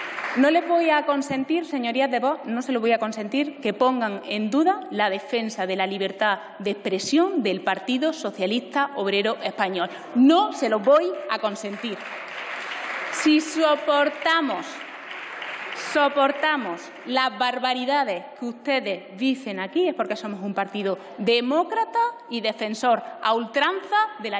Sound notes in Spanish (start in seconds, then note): 11.6 Aplausos.-Rumores